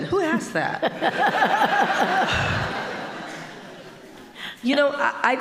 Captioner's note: audience laughing